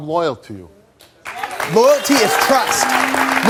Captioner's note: audience clapping